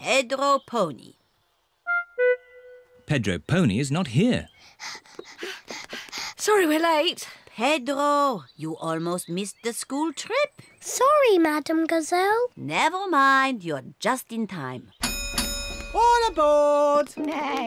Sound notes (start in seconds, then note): 4.6 panting; 15.0 dings bell